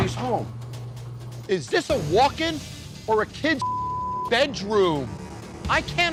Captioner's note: beep